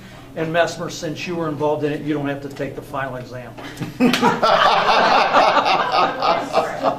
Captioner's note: they all laugh